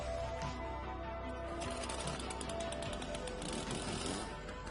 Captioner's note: chainsaw revving